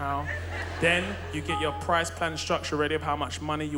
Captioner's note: both laughing